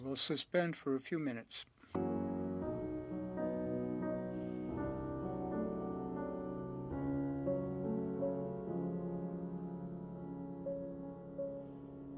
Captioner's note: speaking French